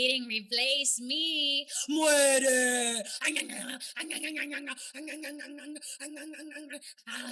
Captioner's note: killer flan noises